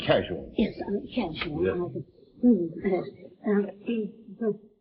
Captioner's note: whispering